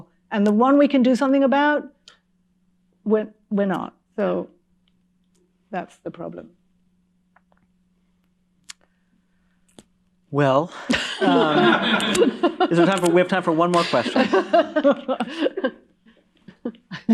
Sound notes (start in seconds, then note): 10.8 laughter; 13.5 laughter fades